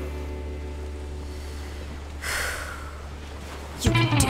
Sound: Joss inhales deeply

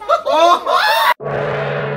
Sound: inhuman screech

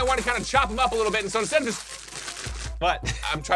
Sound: bag crinkling

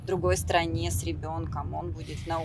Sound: speaking Foreign Language

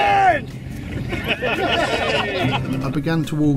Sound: all laugh

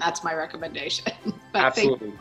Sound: chuckles

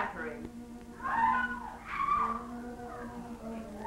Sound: girls screaming in distance

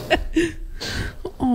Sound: laughs

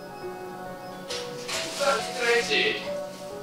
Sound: the door opens

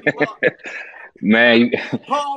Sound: laughing

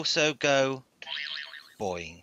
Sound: boing

